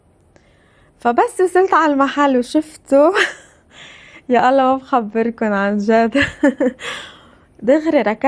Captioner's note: laughs